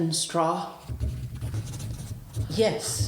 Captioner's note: pencil scratching